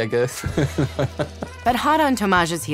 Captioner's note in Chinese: 笑聲